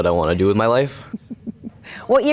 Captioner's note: laughs